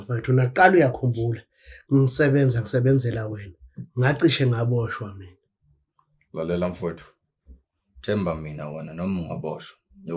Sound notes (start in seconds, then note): none